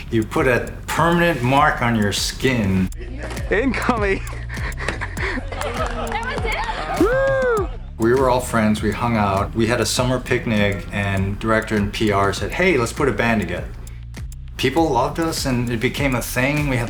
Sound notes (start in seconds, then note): 3.8 laughing